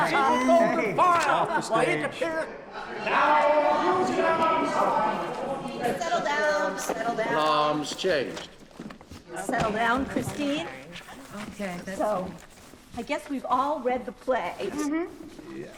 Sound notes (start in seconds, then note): 0.1 laughing; 3.0 loud background chattering